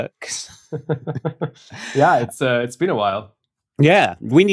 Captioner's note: laughter